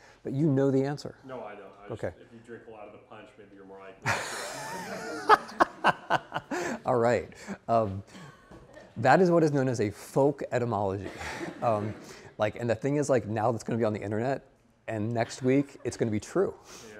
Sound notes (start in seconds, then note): 4.0 laughing; 11.0 students laughing; 15.0 students chuckling